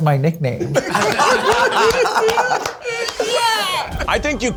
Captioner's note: all laugh